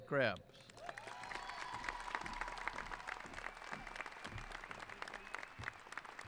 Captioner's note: applause; cheering